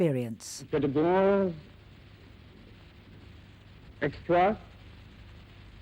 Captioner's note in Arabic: يتحدث باللغة الأجنبية